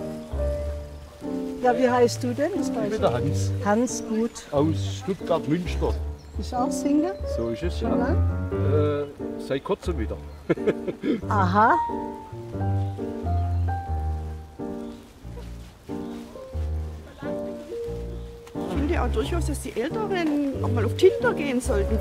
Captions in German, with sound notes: Wie heißt du denn? - Ich bin der Hans. Hans, gut. - Aus Stuttgart-Münster. Bist du auch Single? - So ist es. Schon lange? - Äh, seit Kurzem wieder. (Er lacht.) Aha! (Langsam schwungvolle Klaviermusik) Ich finde auch, dass die Älteren mal auf Tinder gehen sollten.